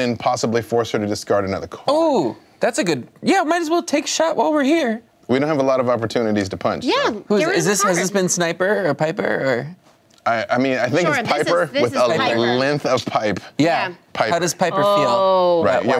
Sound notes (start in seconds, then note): none